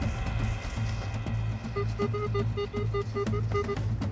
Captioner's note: beeping